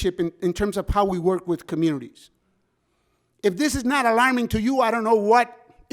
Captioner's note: none